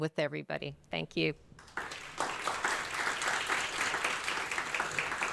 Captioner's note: audience applauding